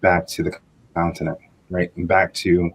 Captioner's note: distorted audio